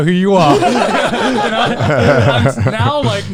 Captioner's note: all laughing